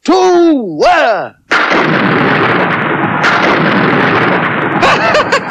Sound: sound Of Thunder

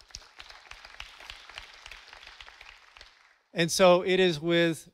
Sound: audience applauding

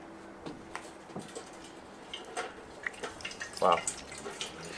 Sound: water Pooring

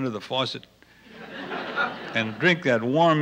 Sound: laughter

